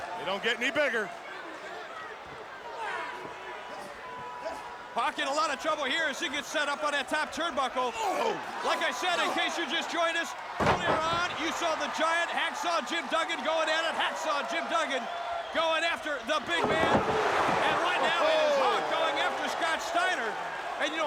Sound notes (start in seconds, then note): 8.0 Hawk grunting